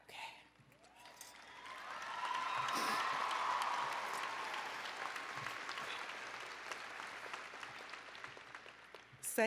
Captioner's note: applause and Cheering